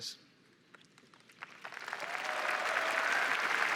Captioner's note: applause